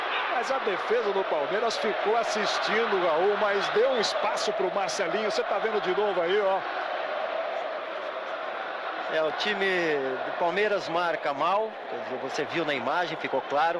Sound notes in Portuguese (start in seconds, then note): 7.1 aplausos